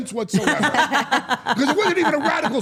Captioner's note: Steph and Elyse laugh